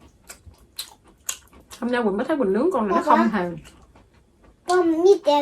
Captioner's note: she's chewing